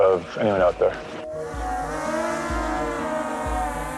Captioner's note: drone buzzing